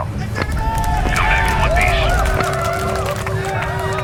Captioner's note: applause